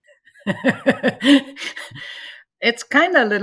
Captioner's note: laughs